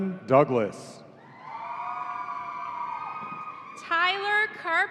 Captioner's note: audience cheering